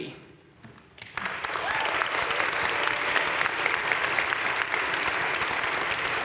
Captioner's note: audience cheering and applauding